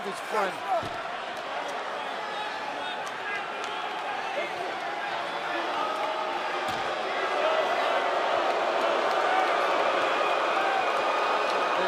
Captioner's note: crowd cheering